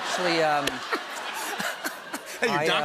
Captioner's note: laughter